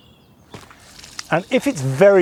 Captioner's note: bird chirping; water flowing